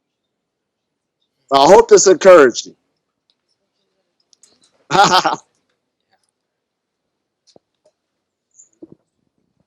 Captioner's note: laughs